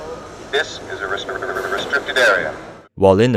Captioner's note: audio glitches